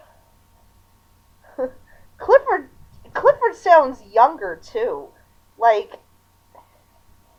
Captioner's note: chuckle